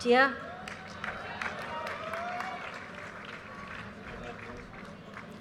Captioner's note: audience cheers and applause